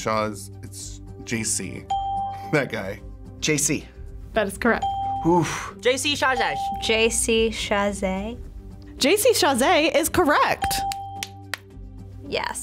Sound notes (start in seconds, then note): 1.9 bell rings; 6.1 bell rings; 10.6 bell rings